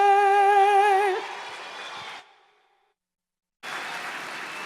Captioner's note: applause